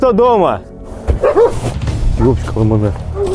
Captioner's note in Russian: лай собак